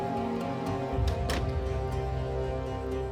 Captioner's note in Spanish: sonidos cerrar la puerta